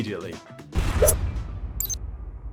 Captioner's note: explosive burst; metallic swish; electronic clicking